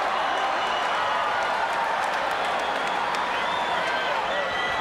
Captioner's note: crowd cheers